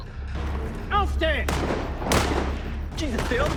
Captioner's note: gunfire